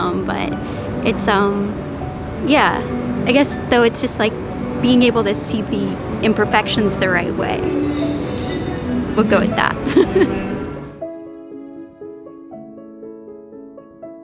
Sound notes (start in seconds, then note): 9.5 laughs; 11.5 gentle music